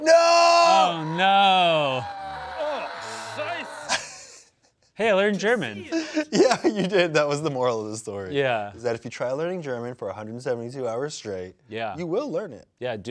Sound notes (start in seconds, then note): 0.0 screaming; 3.6 laughs